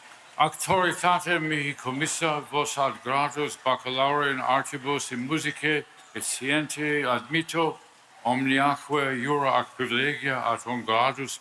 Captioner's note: speaking Latin